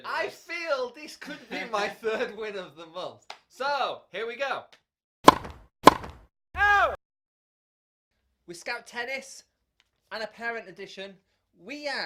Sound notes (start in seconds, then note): 5.2 tennis ball being hit